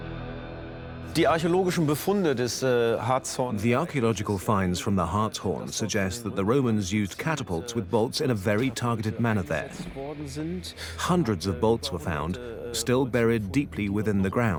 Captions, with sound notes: (in German) (dubbed in English) The finds fm the Harzhorn suggest the Romansd catapults with bolts in a targe. Hundreds of bolts were found, still buried deeply within the .